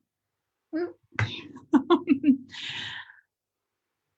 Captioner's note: laughs